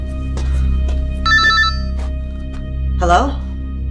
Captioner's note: ominous music; phone ringing